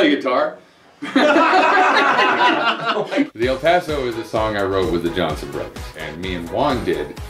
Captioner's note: laughter